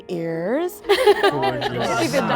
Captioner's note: group laughing